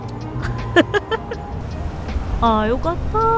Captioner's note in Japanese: 笑い